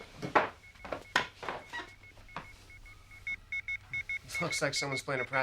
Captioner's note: computer beeping rapidly